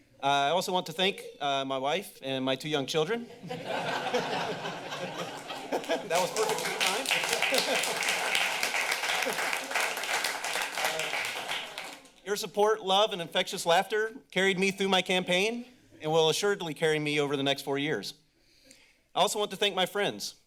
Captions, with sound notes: Uh, I also want to thank, uh, my wife and my two young children. [laughter] -That was perfectly timed. [laughs][applause] -Your support, love, and infectious laughter carried me through my campaign and will assuredly carry me over the next four years. I also want to thank my friends.